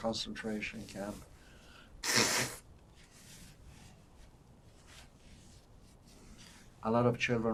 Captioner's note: wiping nose